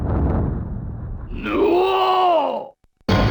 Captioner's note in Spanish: Sonido de gruñidos